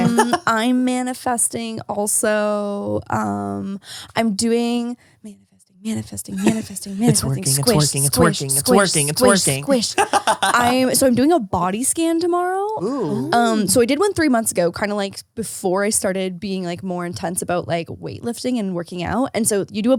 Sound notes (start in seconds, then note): 9.9 laughs